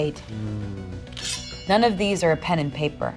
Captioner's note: dramatic music; sword clang